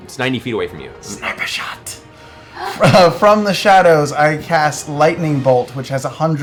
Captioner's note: whispering